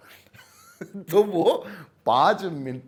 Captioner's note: laughs